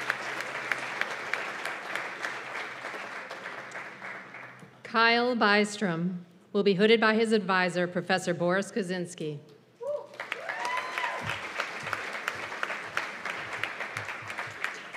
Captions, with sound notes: Kyle Bystrom weill be hooded by his advisor, Professor Boris Kozinski. [CHEERS AND APPLAUSE]